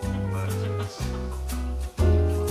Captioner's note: laughs